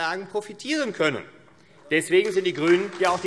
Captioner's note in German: Beifall AfD